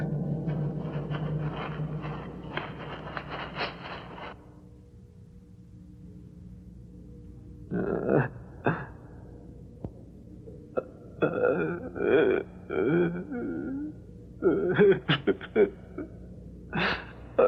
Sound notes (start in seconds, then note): 3.8 humming